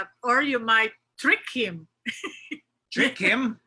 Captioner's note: laughs